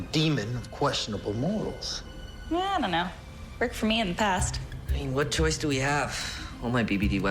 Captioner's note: none